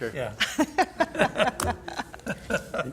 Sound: laughter

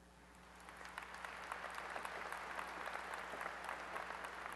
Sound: applause

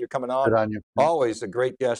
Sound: mumbles

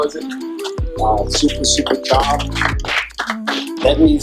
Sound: clapping

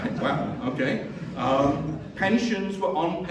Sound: chuckling

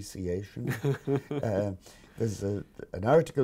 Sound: laughing

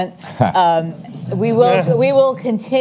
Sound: audience chuckles

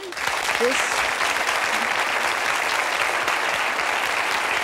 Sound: audience applauding

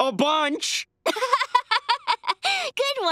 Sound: laughing

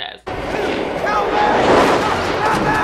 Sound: wind blowing

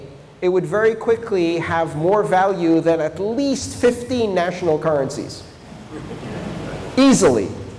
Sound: laugher

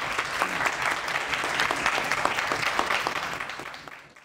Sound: applause

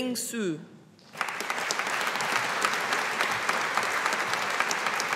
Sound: audience applauding

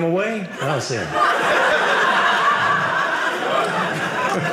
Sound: audience laughing

